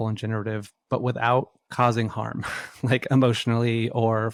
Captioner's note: laughs